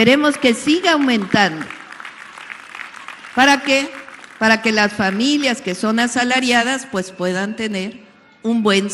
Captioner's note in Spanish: aplausos